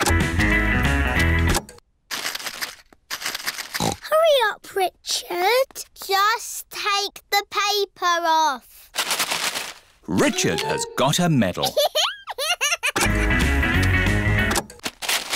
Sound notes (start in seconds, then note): 1.6 music stops; 3.8 snorts